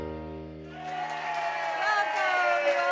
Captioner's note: audience cheering; audience applauding